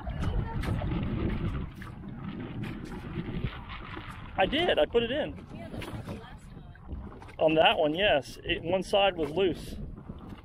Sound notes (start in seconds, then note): none